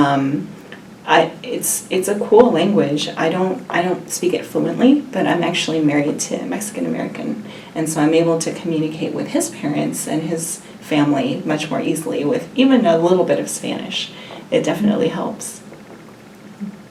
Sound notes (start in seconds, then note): none